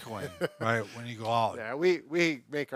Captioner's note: laughing